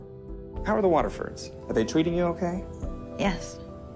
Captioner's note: voiceover